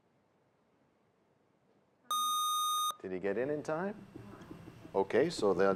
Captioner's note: bell rings, time expires